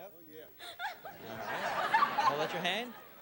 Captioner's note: laughter